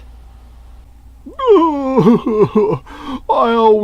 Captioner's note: sobs